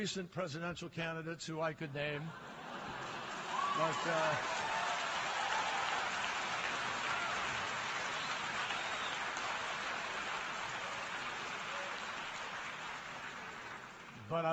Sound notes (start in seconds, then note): 6.7 laughter and applause